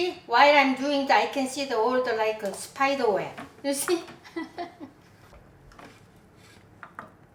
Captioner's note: chuckles